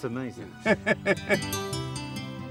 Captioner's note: laughing; gentle music